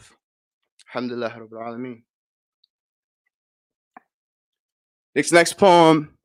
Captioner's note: speaking in a foreign language